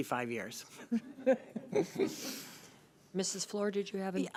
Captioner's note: laughing